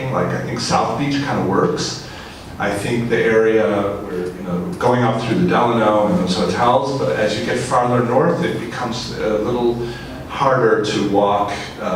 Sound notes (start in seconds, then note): none